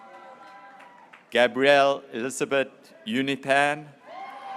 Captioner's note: graduates cheering